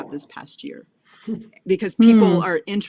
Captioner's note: laughs